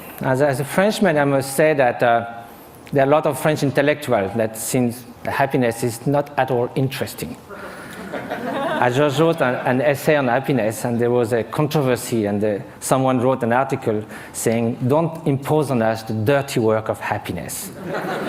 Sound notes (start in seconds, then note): 7.6 laughter